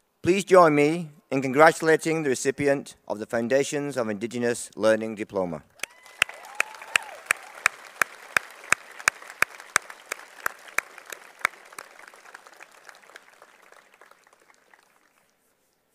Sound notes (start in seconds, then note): 5.6 applause